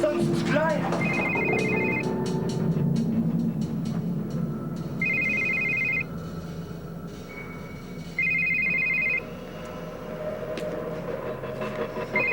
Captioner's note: Sonnerie du téléphone